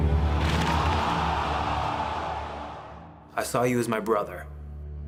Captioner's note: crowd cheering